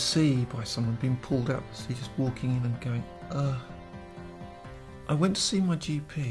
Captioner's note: sigh of relief